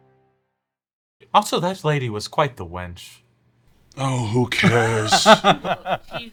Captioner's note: laughs